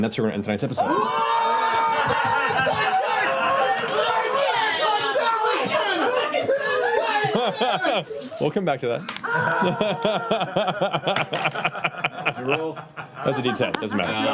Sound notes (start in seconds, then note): 0.8 screaming; 3.5 shouting